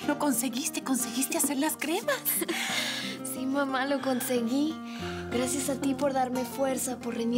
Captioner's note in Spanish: Risas